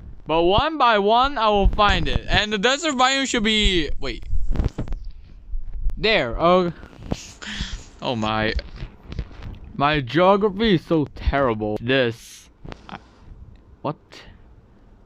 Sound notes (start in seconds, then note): 3.4 wind blowing at my fried up android mic